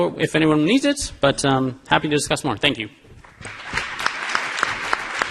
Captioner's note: applause